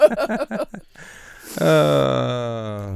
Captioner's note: laughing